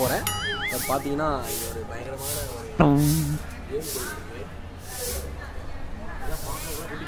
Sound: magnified sweeping sound panning from right to left

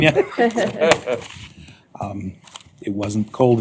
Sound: laughter

